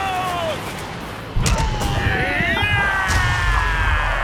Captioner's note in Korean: 둘의 신음